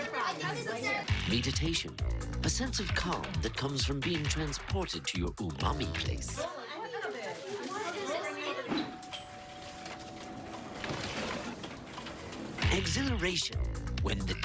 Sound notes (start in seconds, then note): 0.0 family chatter; 1.1 sensual music starts; 8.3 family chatter continues; 11.1 doorbell ringing; 11.9 background office sounds; 13.0 sensual music starts